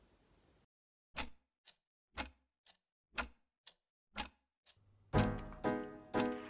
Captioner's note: clock ticking